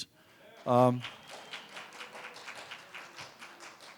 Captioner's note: applause